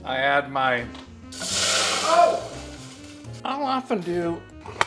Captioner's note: pot sizzles loudly